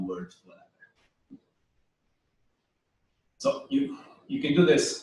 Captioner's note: pause